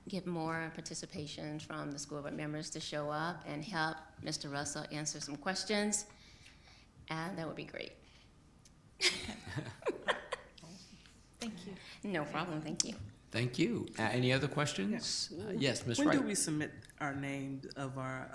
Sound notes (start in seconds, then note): 9.0 laughs